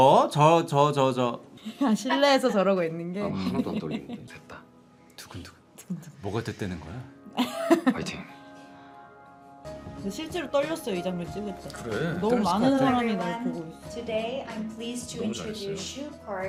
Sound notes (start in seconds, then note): 7.4 laughing